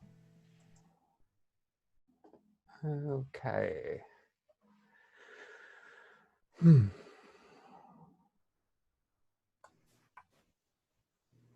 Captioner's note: silent pause